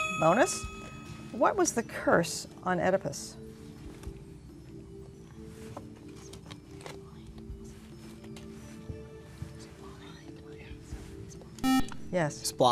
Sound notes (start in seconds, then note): 6.1 whispering